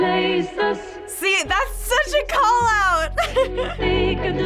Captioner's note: laughs